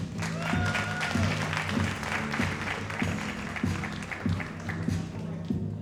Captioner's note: audience cheering and applauding